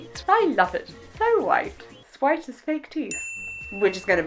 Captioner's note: ding